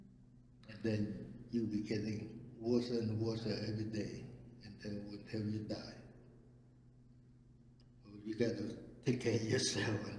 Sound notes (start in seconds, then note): none